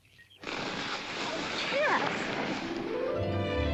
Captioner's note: fire hisses; sentimental music